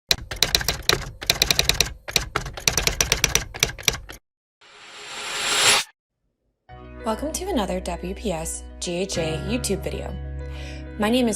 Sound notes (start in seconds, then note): 0.0 whoosh; 0.1 typing